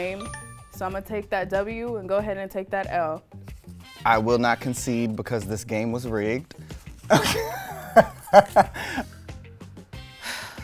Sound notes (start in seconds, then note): 7.1 laughs